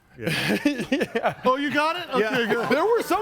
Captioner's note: laughs